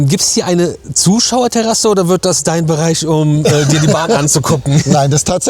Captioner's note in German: gelächter